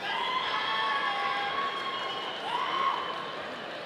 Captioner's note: audience cheering